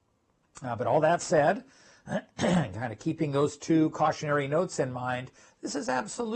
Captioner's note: cough